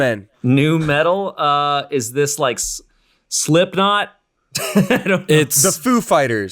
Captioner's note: laughs